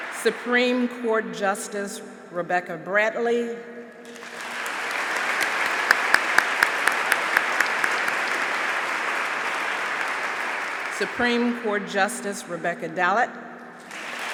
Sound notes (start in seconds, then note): 0.0 applause; 4.1 applause; 13.8 applause